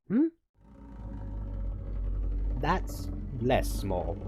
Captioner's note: Dragon growls and worried noises from Tick Tock